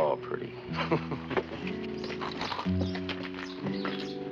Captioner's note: chuckles